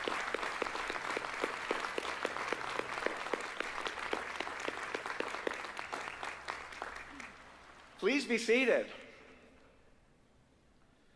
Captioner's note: applause